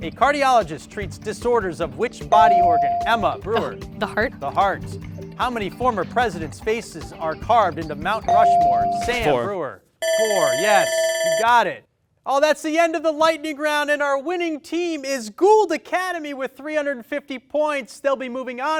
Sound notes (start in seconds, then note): 2.4 bell ring; 8.3 bell ring; 12.0 ringing